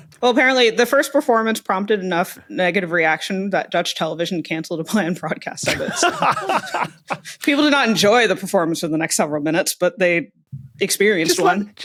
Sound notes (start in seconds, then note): 5.6 laughs heartily